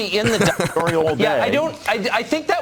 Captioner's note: announcer laughs